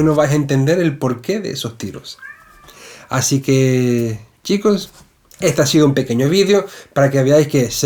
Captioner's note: meow